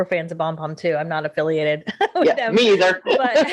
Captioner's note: chuckling